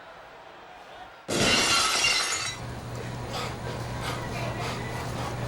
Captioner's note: glass shatters